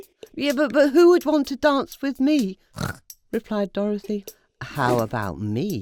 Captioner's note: snort